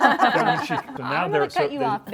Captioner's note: laughter